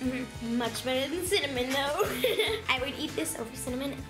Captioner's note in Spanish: se ríe